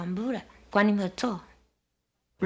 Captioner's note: speaking Taiwanese